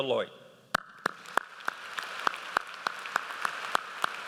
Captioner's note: audience applauds